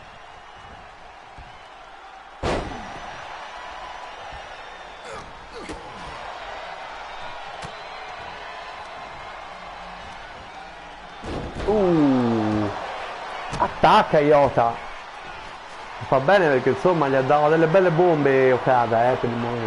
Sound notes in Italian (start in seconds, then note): 7.3 Applauso